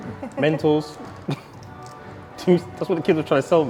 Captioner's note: chuckles